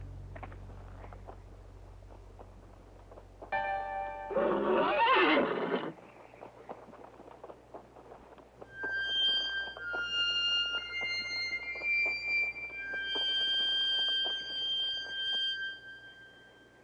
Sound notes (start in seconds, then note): 4.3 neighs